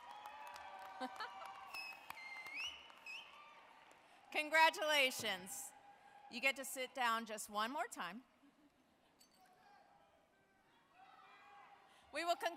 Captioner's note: cheering and applause